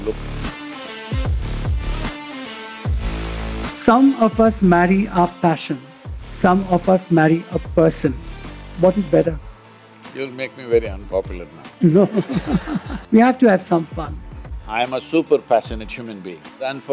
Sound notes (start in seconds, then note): 11.8 laughter